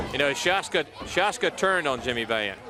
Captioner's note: crowd chatter